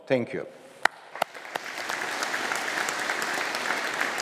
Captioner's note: audience applauding